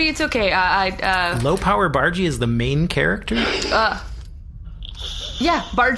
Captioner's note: laughs